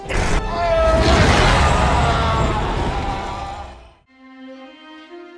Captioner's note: scream